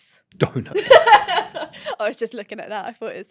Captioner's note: host on right laughs